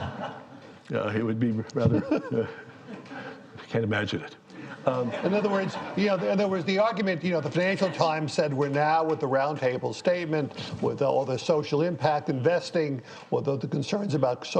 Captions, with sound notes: ANOTHER GLOOMY STORY? - I WOULD BE 95 WHEN I WROTE IT. [LAUGHTER] >> I CAN'T IMAGINE IT. - IN OTHER WORDS THE FINANCIAL TIMES WE ARE AT THE ROUND TABLE